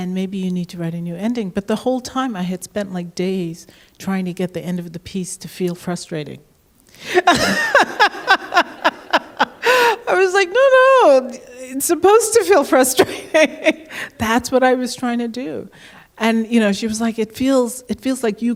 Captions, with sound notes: maybe you need to write a new ending." But the whole time, I had spent days trying to get the ending of the piece to feel frustrating. [Laughs] I was like, "No, no. It's supposed to feel frustrating. That's what I was trying to do." And she was like, "It feels like you